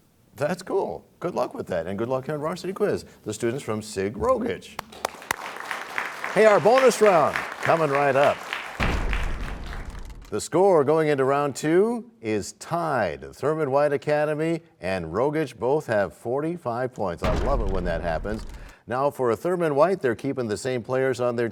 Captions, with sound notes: SBAC. -That's cool. Good luck with that and on Varsity Quiz. The students from Sig Rogich. [applause] Hey, our bonus round coming right up. [crashing sound] The score going into Round 2 is tied. Thurman White Academy and Rogich both have 45 points. I love it when that happens. Now, for Thurman White, they're keeping the same